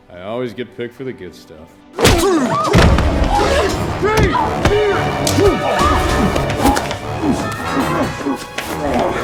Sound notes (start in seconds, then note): 2.0 smacking; 2.0 tense music; 5.2 grunting